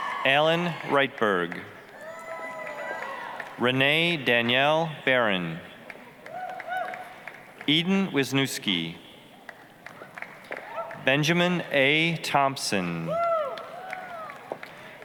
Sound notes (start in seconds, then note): 2.1 applause, cheering; 5.8 applause, cheering; 9.4 applause; 13.0 applause, cheering